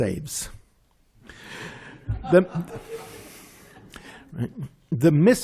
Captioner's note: laughter